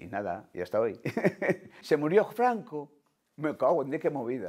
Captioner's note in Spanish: Ríe